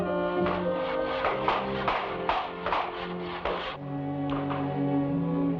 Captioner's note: hammer bangs; somber music